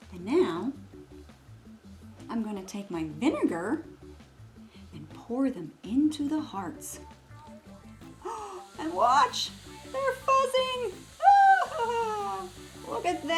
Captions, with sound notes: And now I'm gonna take my vinegar and pour them into the hearts. [gasps] [mixture fizzes] And watch, they're fizzing. Ah! Look at that!